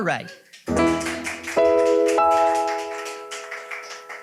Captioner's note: audience clapping